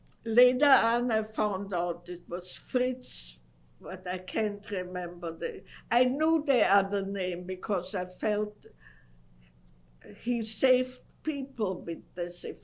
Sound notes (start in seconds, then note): none